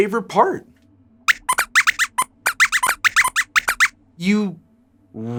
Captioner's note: squeaks squeaks